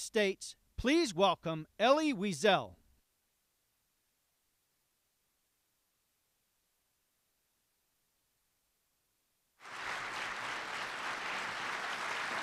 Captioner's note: applause